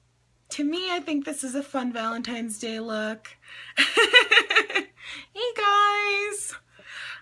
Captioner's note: laughs